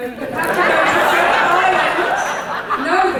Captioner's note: audience laughter